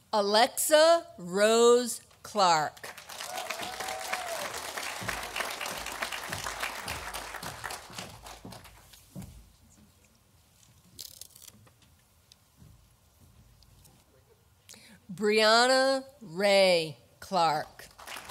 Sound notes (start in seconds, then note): 2.8 audience applauding